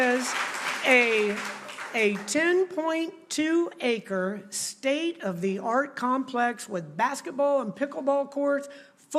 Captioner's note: applause